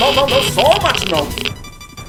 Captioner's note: geiger counter sounds